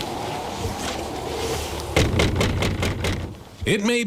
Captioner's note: walking and knocking